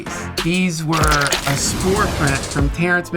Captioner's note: squish